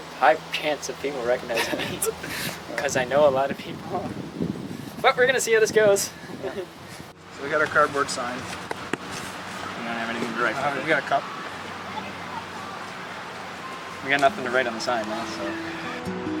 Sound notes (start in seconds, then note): 1.4 laughing